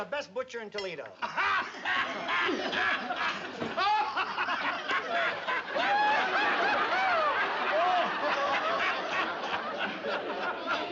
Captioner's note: laughs